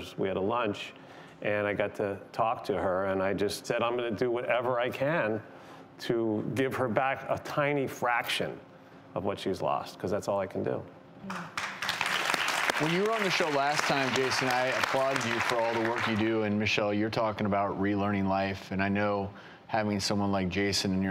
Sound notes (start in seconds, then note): 11.3 audience clapping